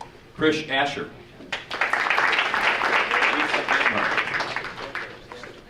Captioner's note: audience applauding